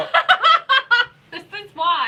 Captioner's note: laughing